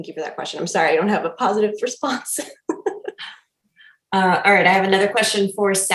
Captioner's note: laughing